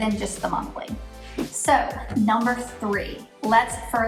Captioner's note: air whooshes